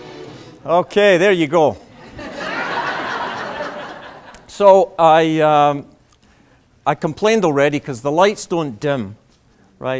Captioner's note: laughter